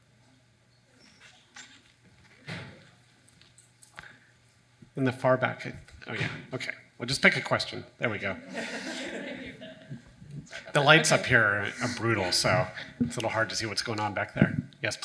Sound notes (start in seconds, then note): 8.4 audience laughing